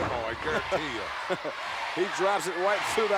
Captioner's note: laughs